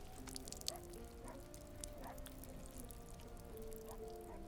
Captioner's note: blood dripping